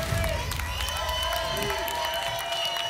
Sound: whoosh; applause and cheering; applause and cheering

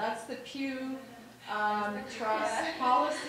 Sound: laughing

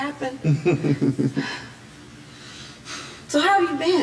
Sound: chuckling

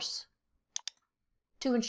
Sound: mouse clicks

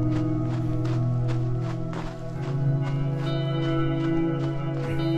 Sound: footsteps crunching

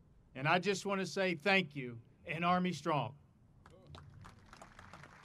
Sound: audience applauding

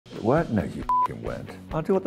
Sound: beep

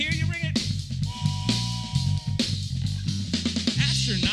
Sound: whistle blows

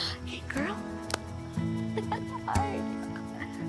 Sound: chuckling

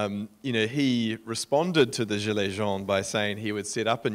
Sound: speaking in foreign language

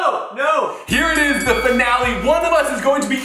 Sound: bell dings

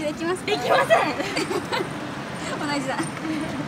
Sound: laughs

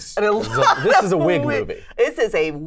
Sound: laughs

